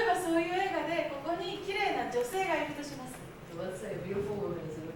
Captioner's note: speaking Japanes